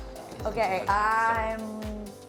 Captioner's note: laughing